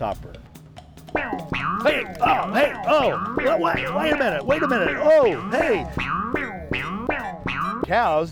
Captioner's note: bong, bong, bong; bong, bong,bong